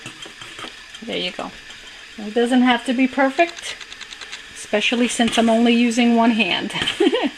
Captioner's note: laughter